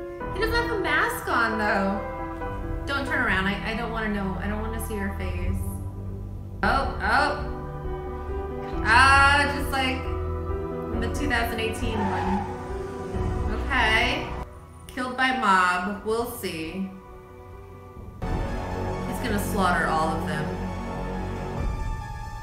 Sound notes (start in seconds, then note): 10.9 brakes screech; 20.9 intensifying music